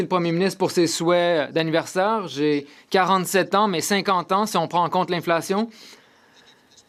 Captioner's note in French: voix de l'interprète